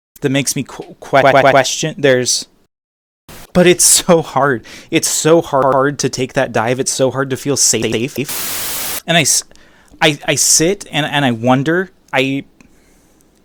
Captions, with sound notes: that makes me q... q-q-q-q-question theres... [static] but its so hard its so h-h-hard to take that dive its so hard to feel sa-afe-a-afe [loud static] and i i i sit and and i wonder. i... (exhale)